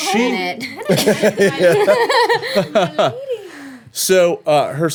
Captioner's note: everyone laughing